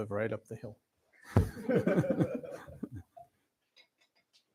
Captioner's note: laughter